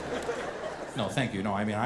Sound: audience laughing

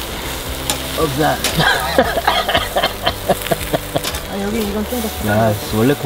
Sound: cough

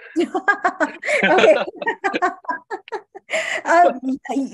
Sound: laughter

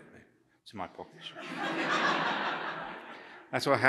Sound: laughter

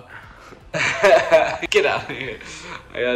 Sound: laughing

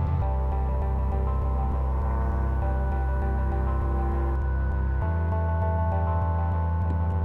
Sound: sound of plane engine

